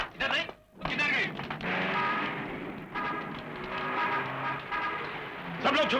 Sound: car horn blares

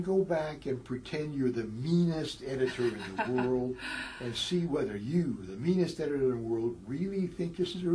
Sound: laugh

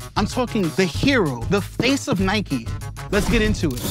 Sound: taps box

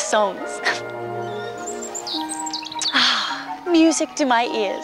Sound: bird tweets

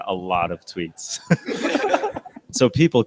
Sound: all laugh

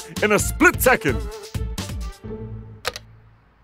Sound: fly buzzes

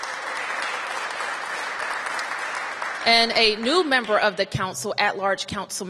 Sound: applause

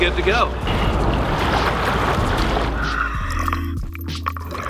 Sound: upbeat music; waves roaring; breathing underwater

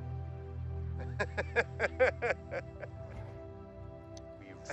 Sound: laughs

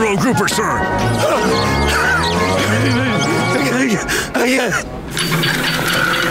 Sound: indistinct groaning, mumbling continuing

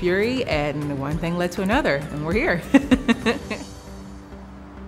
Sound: laughs

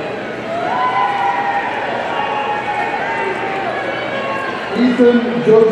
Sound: audience cheering

